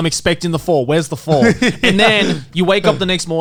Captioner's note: Garnt laughing